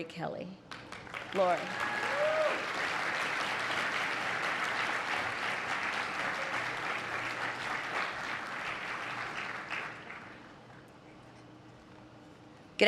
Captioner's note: applause